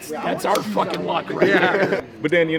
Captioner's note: group laughing